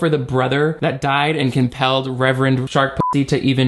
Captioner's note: beep